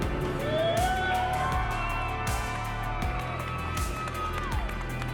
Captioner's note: crowd cheering and applauding